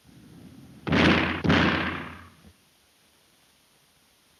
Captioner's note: gun firing